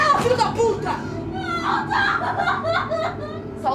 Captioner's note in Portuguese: Gritos e choro